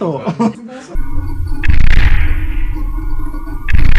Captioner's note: Zaku footsteps